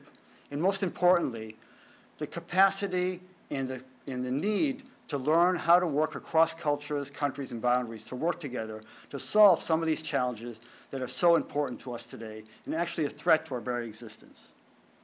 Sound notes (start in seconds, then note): none